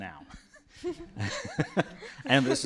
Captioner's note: laughter